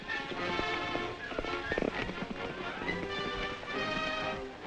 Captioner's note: horses galloping